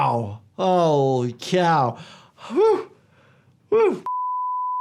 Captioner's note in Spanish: suspira